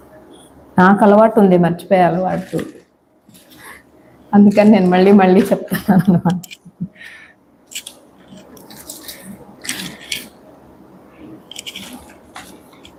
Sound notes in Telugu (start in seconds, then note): 5.7 నవ్వు